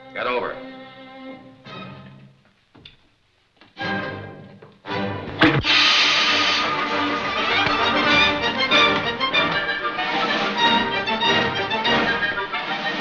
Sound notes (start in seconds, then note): 1.3 dramatic music; 5.4 gun explodes; 8.0 frenetic music